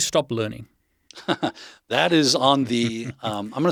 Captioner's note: chuckles